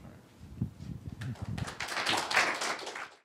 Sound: applause

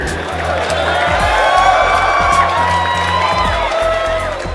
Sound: applause

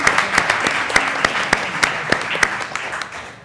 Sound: applause

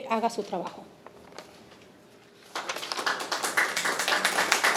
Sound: attendees clapping

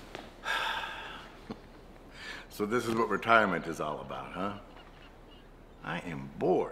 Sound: sighs

